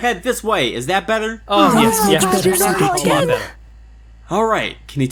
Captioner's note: sounds of relief